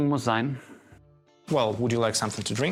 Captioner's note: in German